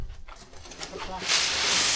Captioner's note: speaking in foreign language